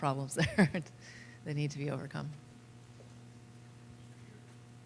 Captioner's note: laughter